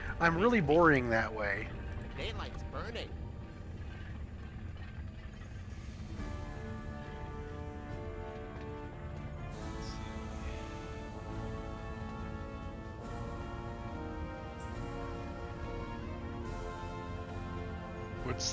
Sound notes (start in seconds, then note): 4.6 wind howling